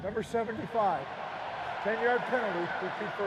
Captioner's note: cheering